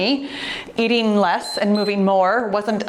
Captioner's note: timer beeps